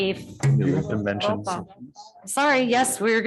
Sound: group chattering

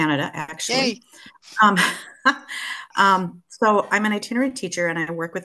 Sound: laughs

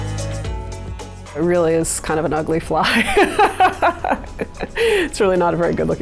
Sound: laughs

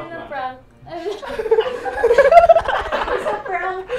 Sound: everyone laughs

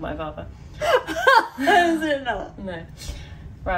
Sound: laughs

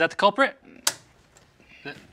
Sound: switch clicks

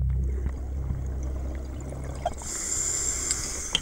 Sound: water burbling; inhales deeply

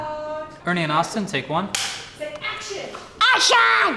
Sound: slate claps

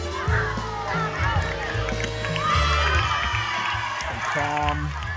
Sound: applause

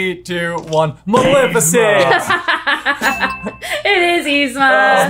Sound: laughing

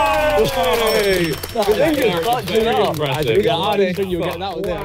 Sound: everyone cheering

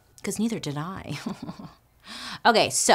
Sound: laughs

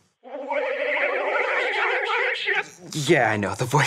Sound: garbled computer voice

